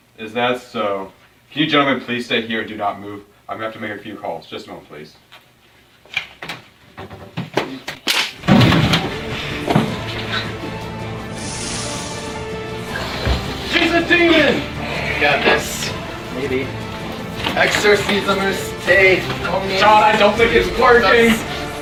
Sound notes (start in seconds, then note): 7.8 neck snaps; 11.5 sizzling